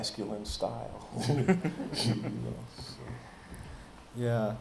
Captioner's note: chuckling